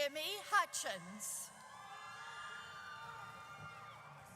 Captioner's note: audience cheers